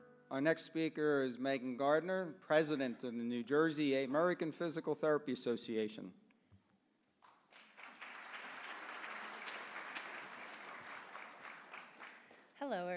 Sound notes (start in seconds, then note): 7.2 applause